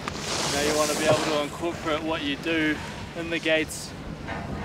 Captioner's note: none